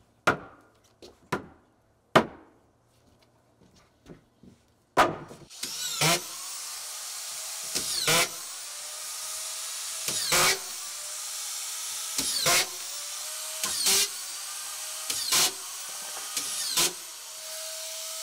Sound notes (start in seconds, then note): 0.3 sledge hammer knocking; 5.0 plank clunks; 5.8 screwdriver whirring